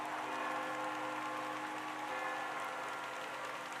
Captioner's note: bell ringing